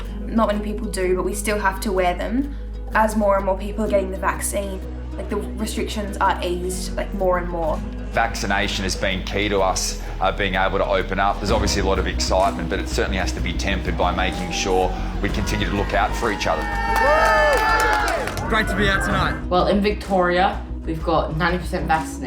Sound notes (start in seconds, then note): 16.7 cheering